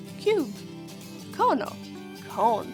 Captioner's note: speaking in foreign language